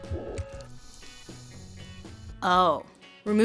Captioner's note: hiss of air escaping